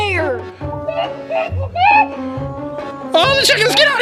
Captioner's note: clucks